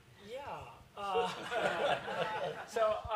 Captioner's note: laughter